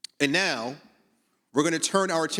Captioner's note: none